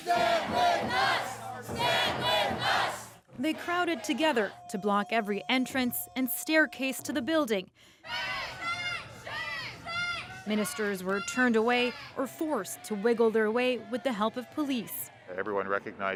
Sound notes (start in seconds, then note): 2.9 chanting